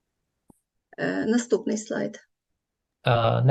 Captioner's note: foreign Language